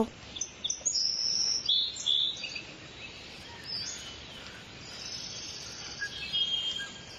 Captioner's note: insects chattering; birds cawing and chirping